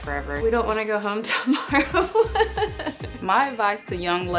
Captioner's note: laughs